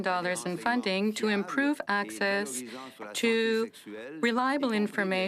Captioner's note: speaking French